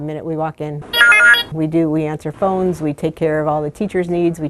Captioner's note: phone rings